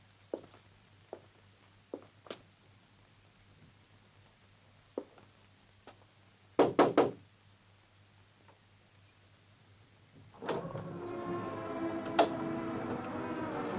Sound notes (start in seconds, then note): 6.6 knocking on door; 10.6 eerie music